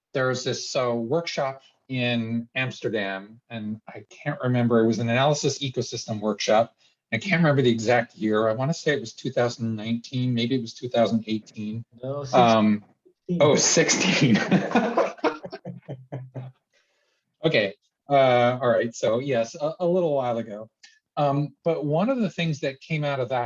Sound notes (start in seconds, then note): 14.0 both laughs